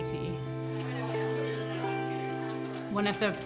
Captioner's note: people chattering